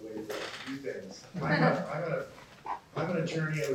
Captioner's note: laughter